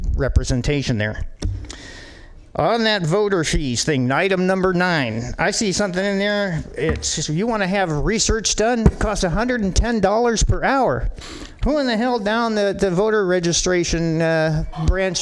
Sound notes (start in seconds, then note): none